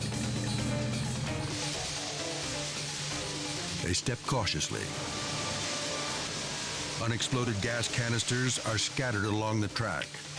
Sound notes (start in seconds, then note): 0.1 dramatic music; 1.8 water splashing; 5.1 dramatic music continues